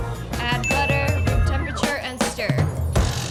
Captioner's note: bell dings